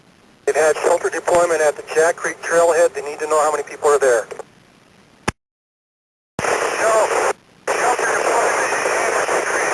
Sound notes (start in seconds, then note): 6.4 static